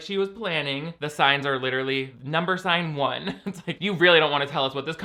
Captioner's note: laughs